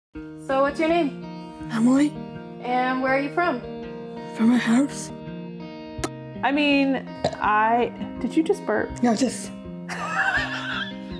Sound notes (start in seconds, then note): 7.2 burp; 9.9 laughing